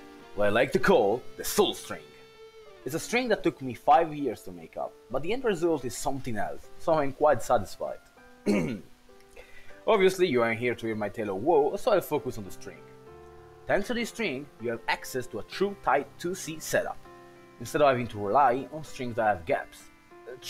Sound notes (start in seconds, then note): 8.4 hrm; 9.3 deep breath